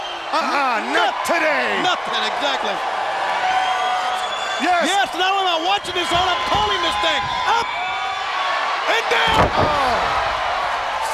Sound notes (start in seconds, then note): 2.9 crowd cheering; 9.0 Ric thudding on ring; 10.0 crowd cheering